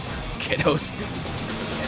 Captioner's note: starts laughing